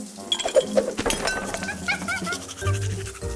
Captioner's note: objects clattering; monkey chattering